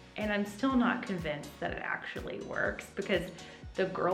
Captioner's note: none